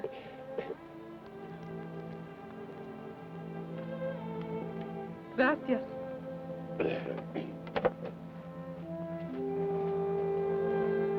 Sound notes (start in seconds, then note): 0.1 peaceful orchestral music; 6.8 Carney clears his throat